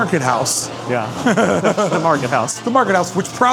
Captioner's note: laughing